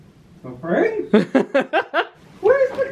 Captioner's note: laughs